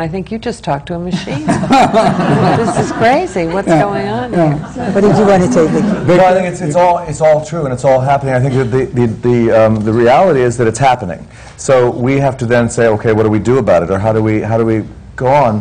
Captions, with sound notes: And I think, "You've just talked to a machine." (LAUGHTER) This is crazy, what's going on? Yeah, yeah. What did you want to say, Victor? That I think it's all true and unhappily, I think the reality is that it's happening. So we have to then say, "Okay, what do we do about it? Or how do we go on?"